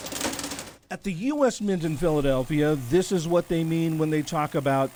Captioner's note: voice-over